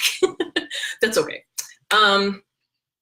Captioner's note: laughs